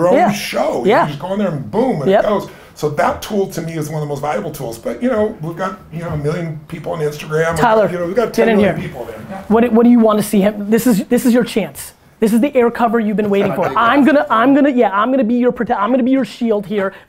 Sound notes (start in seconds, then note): 13.2 Tony laughs